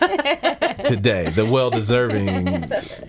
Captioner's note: laughing